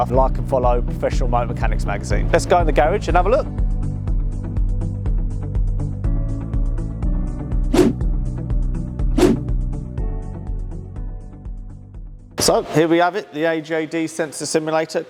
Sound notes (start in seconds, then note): 4.4 mellow music; 7.5 air whooshing